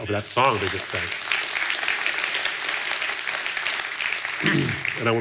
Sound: audience applauding

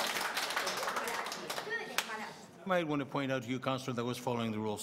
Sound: cheers and applause

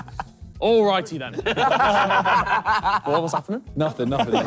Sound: laughing

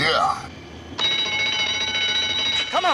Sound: alarm!!!

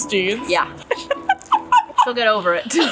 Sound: laughs; both laugh

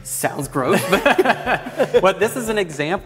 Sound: laughter

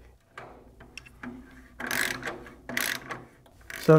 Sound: ratcheting

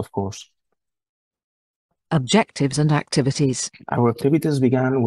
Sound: voice-over

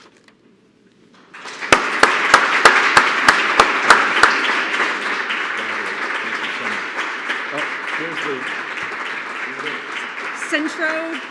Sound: applause

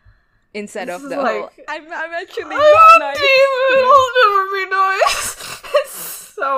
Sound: both laugh

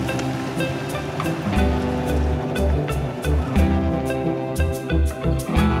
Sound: bright hopeful music; engine rumbling

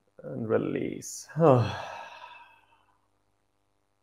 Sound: exhales

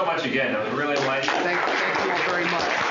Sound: applause

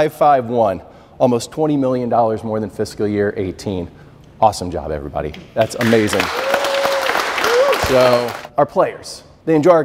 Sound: applause

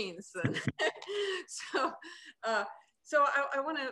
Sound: laughing

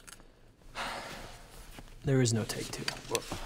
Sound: sighs

